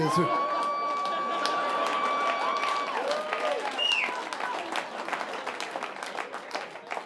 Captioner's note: audience cheering and applauding